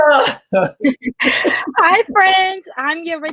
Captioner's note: chuckle